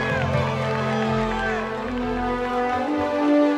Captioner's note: crowd cheering